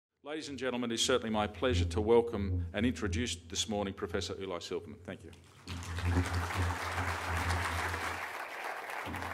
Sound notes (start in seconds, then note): 5.5 applause